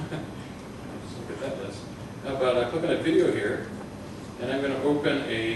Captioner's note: laughter